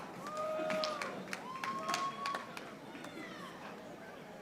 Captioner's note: audience applauding